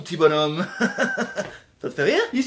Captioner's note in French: rire maléfique